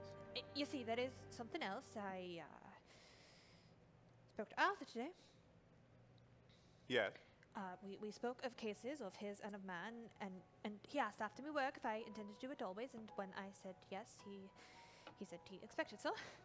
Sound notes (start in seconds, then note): none